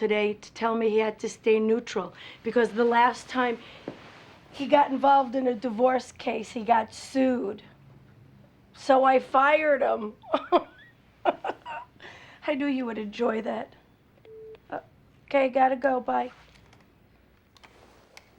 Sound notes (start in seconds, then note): 11.2 laughs; 14.2 beeps